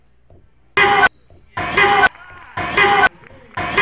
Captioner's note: yelling